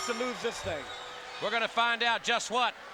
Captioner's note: bell ringing